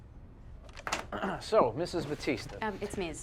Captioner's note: Tommy clears his throat